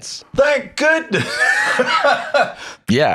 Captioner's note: laughs